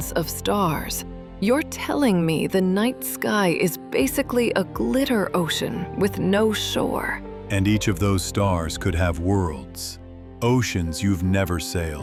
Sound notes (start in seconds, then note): 7.8 thoughtful